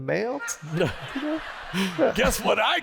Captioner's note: laughter